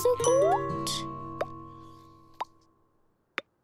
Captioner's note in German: Leise Ploppgeräusche